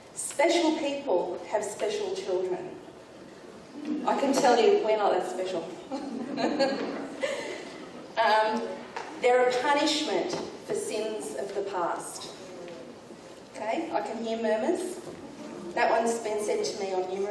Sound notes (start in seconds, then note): 5.9 audience laughing; 12.4 audience groaning